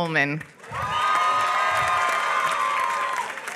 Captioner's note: applause